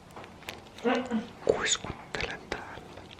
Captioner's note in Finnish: kuiskaa